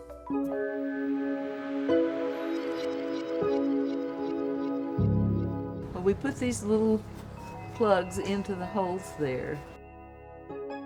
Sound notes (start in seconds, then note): 0.2 gentle music; 2.8 water splashing